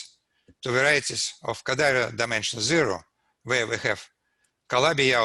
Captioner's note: none